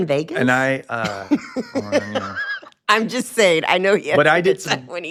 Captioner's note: laughs